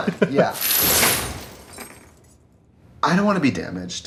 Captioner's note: chains rattle